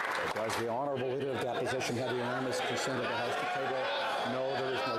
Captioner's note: some Applause